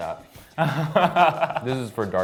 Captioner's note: laughs